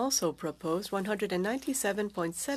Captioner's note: speaking French